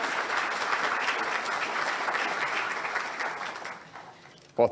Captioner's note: audience applauds